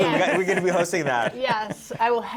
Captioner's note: laughter